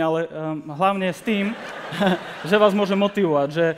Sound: laughter

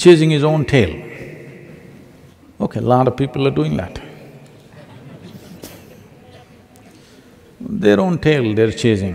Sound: laughter

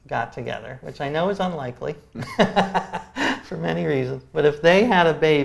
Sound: laughs

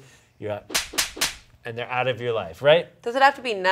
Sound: hands smacking

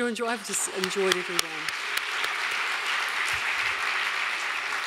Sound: audience applauding

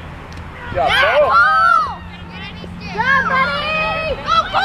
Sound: crowd cheering

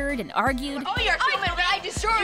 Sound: arguing

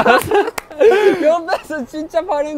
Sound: laughing

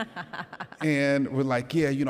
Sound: laughs

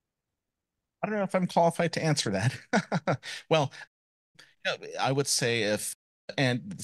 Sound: chuckle

